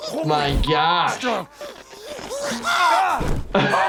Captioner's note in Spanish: gritando y gimiendo; se ríe